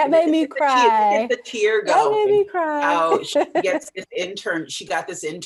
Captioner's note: laughs